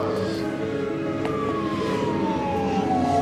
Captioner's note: voices shout "elmo"; siren